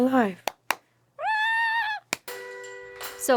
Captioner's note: clapping